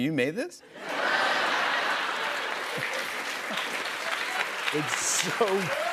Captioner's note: laughter and applause